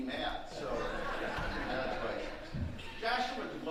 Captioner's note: audience laughing